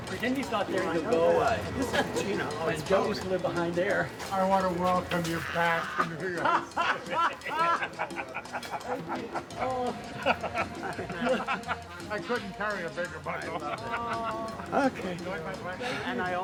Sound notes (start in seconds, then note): 9.3 laughs